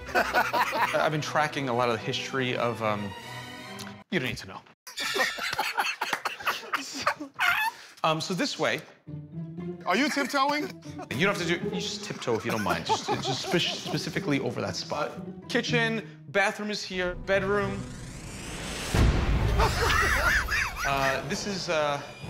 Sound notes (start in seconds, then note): 4.9 laughs; 19.5 laughter